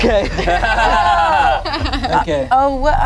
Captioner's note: everyone laughs